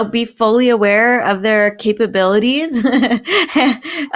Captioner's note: laughter